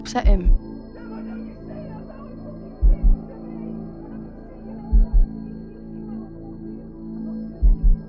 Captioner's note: angry shouting continues; gemma faintly defends herself